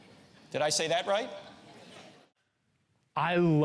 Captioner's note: audience laughs